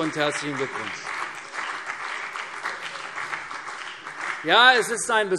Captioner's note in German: Beifall CDU und BÜNDNIS 90/DIE GRÜNEN